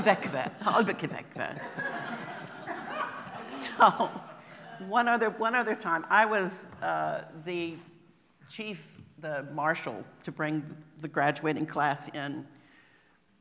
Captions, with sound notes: "qvek-qve" "Albvqverqve" So [laughing] One other - one other time I was uh - the - chief - the marshall - to bring the graduating class in -